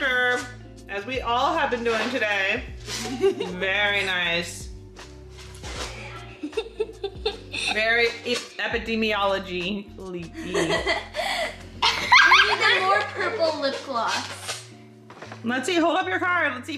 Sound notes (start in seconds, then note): 6.4 laughing; 11.8 laughing